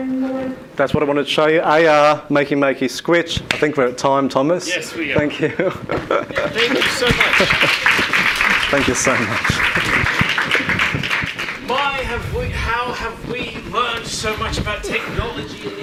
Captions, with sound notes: That's what I wanted to show you, AR, Makey Makey, Skwitch. I think we're at time, Thomas. - Yes, we are. - Thanks you. (laughs) - Thank you so much. (audience applauding) - Thank you so much. - My, have we, how have we learned so much about technology